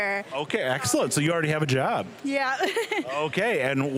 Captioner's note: chuckling